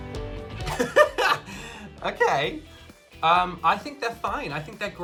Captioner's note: laughs